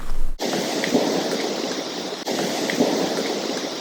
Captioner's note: indistinct thud